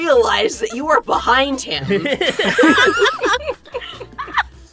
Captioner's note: EVERYONE laughs